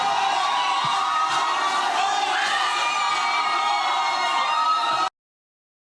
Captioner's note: audience cheering